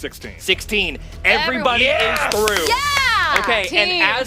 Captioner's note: clapping and cheering